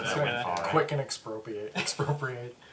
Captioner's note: all laugh